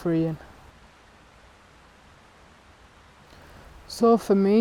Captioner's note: water rushing